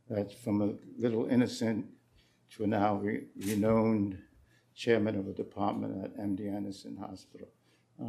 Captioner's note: none